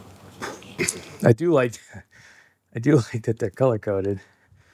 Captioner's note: chuckle